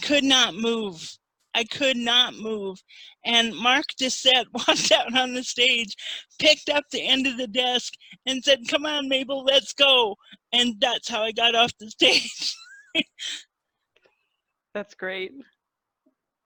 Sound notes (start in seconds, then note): 11.6 laughter